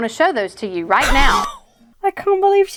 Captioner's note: wheezes